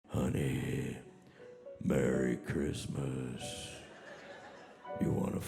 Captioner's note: audience laughing